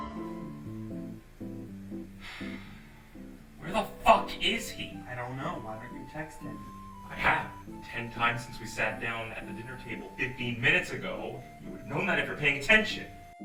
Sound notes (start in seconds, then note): 0.2 elevator music; 2.1 sighs